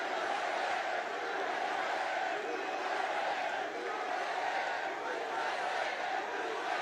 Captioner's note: cheering